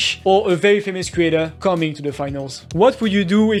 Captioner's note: none